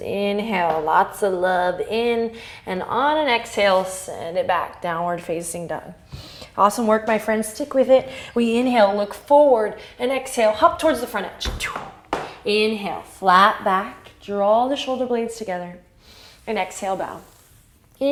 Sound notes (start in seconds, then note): 6.1 inhale; 15.8 inhale